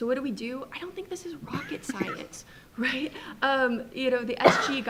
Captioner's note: chuckles